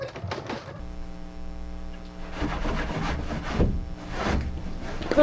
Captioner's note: scrubbing sounds